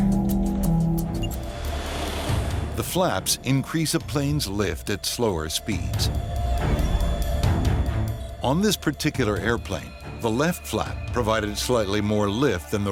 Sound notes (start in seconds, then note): 1.6 airplane engine roaring; 6.1 sinister music